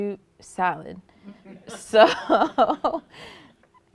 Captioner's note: laughter